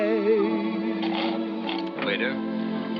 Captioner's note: slurps